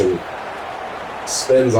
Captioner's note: crowd Noises